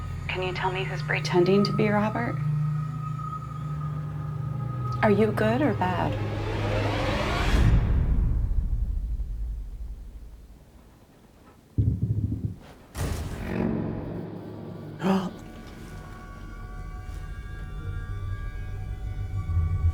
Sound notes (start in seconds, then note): 15.0 gasping; 15.9 ominous music